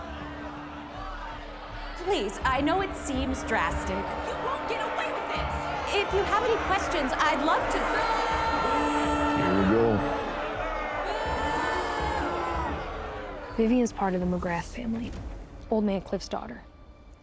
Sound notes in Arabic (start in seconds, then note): 0.0 صيحات الحشود، الجدال; 7.5 صيحات استهجان الجماهير، صيحات; 10.5 صيحات الاستهجان والصيحات من الجماهير